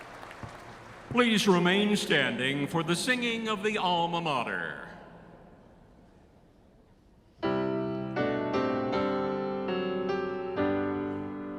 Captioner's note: applause